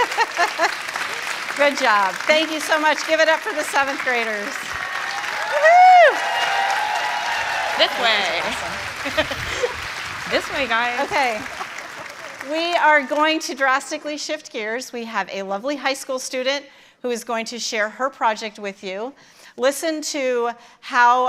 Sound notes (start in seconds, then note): 3.1 applause